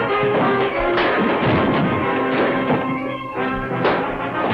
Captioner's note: punch lands